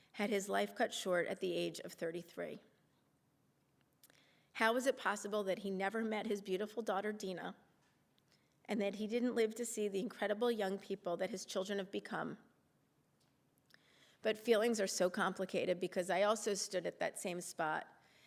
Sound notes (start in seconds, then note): 8.8 voice wavering